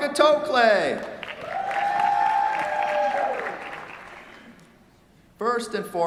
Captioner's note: cheers, applause